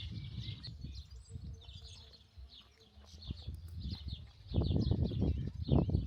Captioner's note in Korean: 새소리 asmr